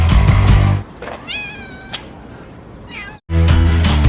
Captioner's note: meooooowww !!! Meow